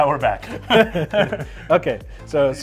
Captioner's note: laughs